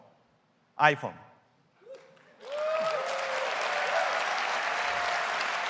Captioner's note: applause